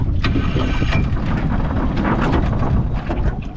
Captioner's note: motor turning